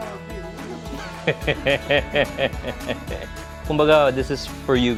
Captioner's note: laughs